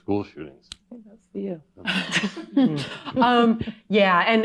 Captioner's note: laughs